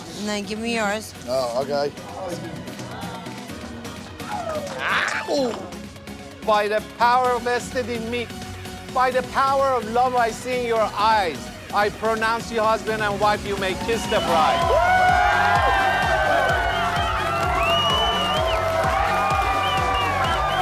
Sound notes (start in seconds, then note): 15.6 cheers and applause; 17.6 upbeat music